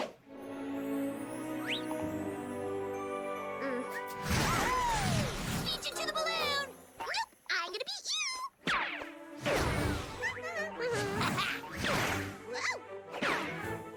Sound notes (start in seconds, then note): 10.0 humming; 10.2 laughs